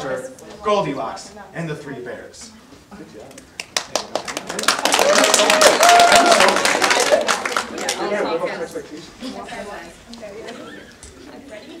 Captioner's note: audience applause